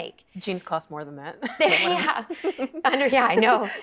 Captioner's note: laughing